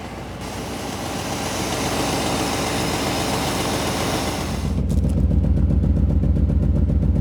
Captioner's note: motor Running